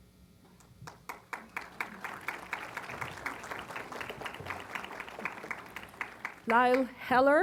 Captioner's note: applause